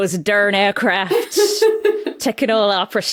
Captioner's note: giggles